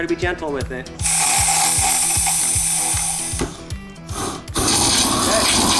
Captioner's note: flamethrower firing up, blasting